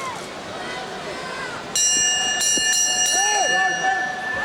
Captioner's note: bell rings